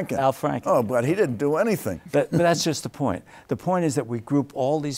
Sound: chuckles

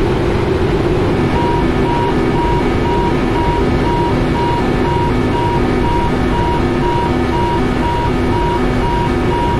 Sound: master Warning Siren

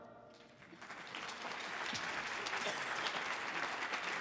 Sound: audience applauding

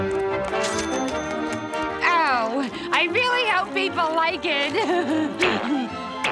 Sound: chinging; chuckles

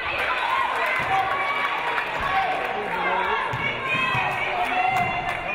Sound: audience applauding

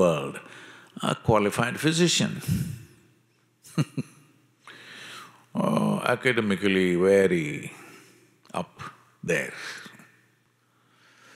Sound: laughs

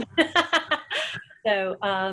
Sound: laughs

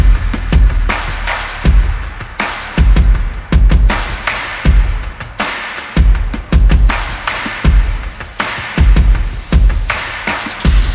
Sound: applause

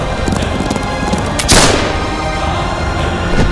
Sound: gunshot

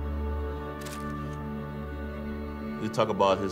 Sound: picture clicks

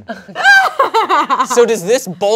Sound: laughs

